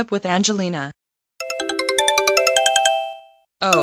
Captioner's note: ringtone